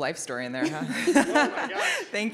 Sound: laughter

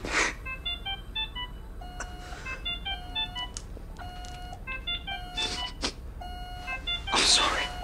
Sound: machines beeps

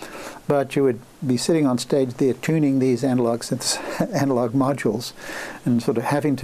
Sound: laughs

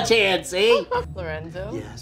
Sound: laughs

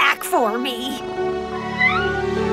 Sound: meowing

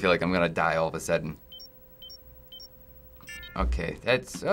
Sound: beeping

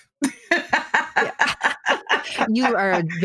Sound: laughing

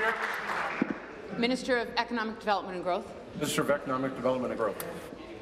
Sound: applause

